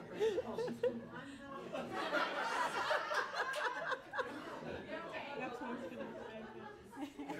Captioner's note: overlapping chattering; audience laughs